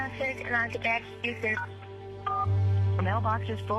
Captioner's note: dialing